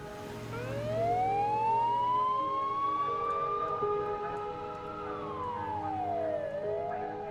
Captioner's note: police sirens